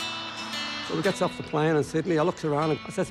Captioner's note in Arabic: همهمة الطائرة